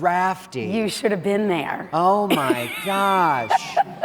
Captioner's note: laughs